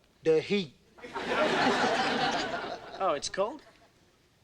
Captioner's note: audience laughing